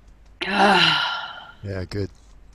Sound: sighs

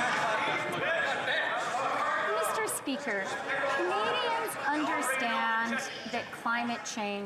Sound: some Applause

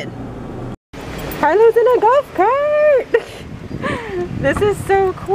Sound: laughs

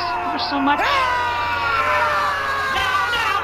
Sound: yelling

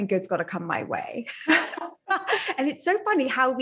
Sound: both laughing

